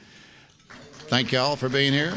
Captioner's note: applause